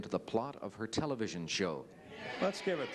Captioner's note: crowd chatter